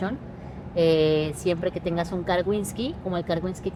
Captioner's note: speaks Spanish